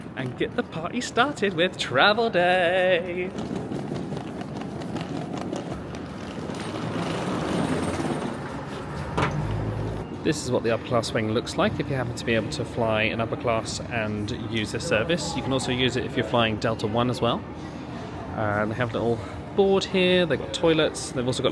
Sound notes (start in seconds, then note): 3.2 luggage clicking